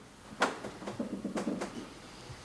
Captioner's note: clattering